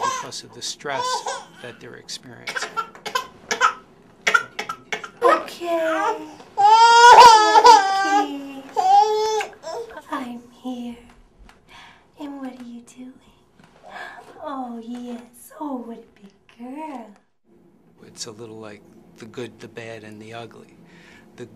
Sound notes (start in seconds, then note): 4.3 baby crying; 13.8 gasps